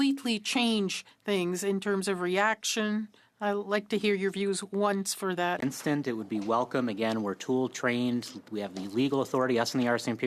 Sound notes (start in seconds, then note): 3.3 speaking French